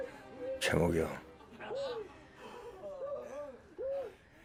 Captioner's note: foreign language